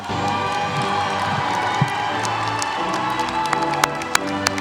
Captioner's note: audience applauding; upbeat music